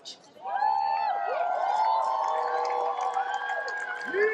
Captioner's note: cheering, applause